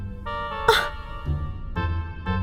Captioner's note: offended gasp